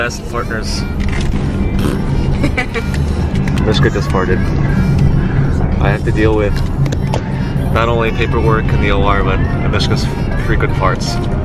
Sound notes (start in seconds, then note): 1.8 fart sound